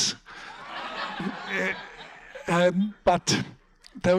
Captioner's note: audience laughs